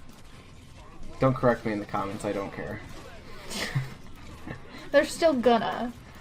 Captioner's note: chuckle